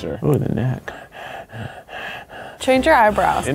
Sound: breathing

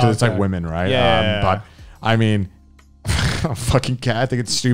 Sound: laughs

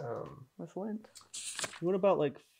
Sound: page turning

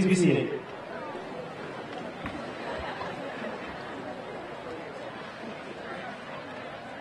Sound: audience chattering indistinctly

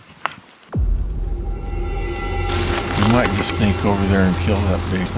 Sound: suspenseful sound effect

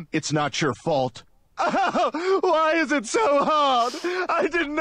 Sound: Stewie sobbing

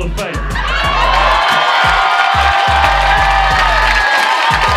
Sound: cheers and applause

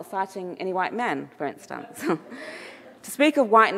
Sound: chuckles; audience laughing

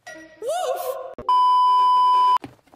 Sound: beep

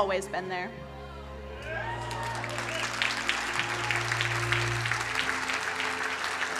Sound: crowd cheering and applauding

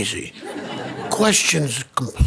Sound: audience laughing

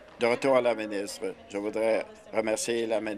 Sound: applause

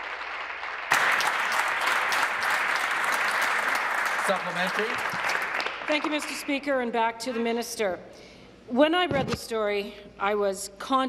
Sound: applause

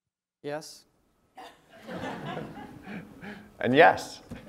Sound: laugh

